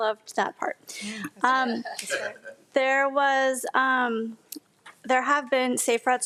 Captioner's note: speaking faintly